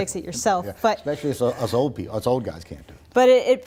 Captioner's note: laughs